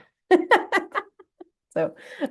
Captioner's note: chuckles